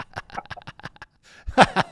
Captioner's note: both Laughing